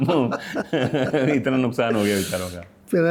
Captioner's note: laughter; nasal sound